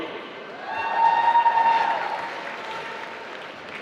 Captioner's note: applause